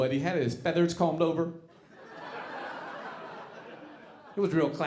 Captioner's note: audience laughing